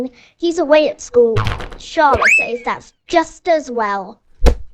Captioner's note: twang; thwack